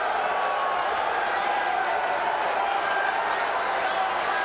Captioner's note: audience cheers